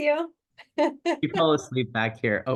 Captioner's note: laughs